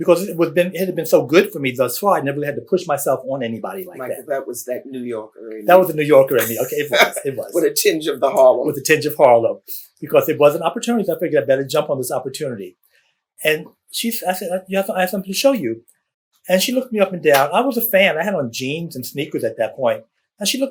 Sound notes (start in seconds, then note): 6.2 laughs